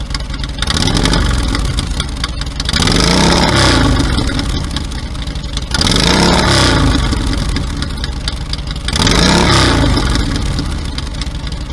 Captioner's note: engine revs